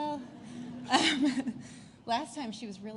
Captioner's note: laughter